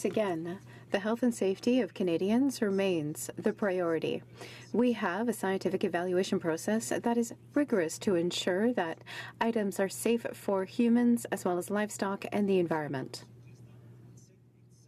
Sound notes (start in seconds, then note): 3.0 speaking french